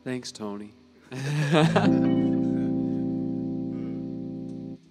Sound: laughing

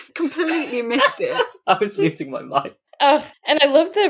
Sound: laughing

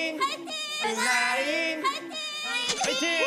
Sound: chanting together

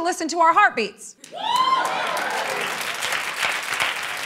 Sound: whooping and applause

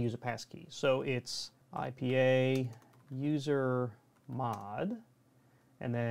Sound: typing

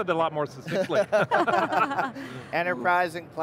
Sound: people laughing

